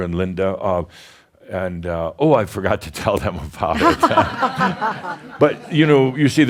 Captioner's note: some chuckles